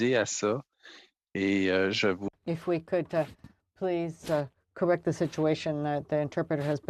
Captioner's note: speaking French